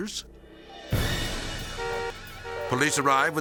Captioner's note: car honking